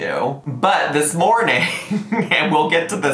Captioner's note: laughs